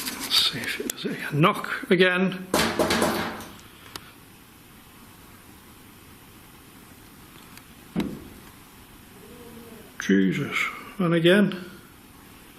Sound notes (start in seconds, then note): 2.5 knocks on locker; 7.9 door bangs